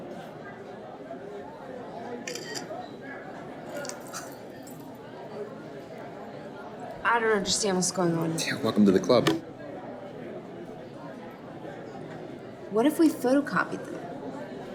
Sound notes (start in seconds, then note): 2.3 camera clicking